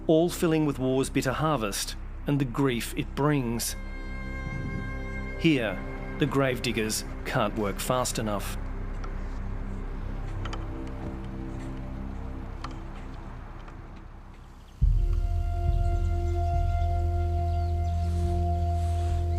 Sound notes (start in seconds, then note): 15.6 birds twitter